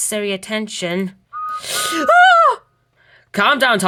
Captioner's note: David's whistle blows and Thomas screams